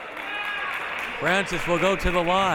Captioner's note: clapping